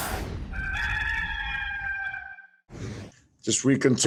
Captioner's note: rooster crows